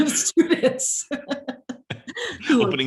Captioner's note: both laugh